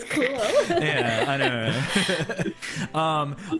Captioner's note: giggles; all laughter